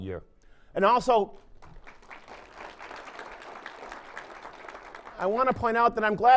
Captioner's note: applause